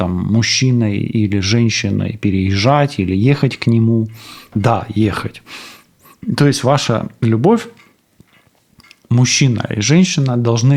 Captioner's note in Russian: фыркает